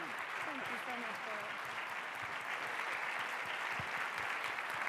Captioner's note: applause